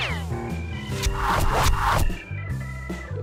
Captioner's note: arrows hitting